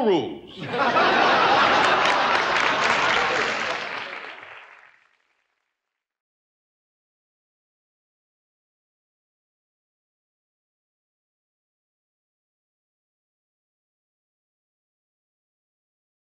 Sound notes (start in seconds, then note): 0.5 audience laughter; 2.7 applause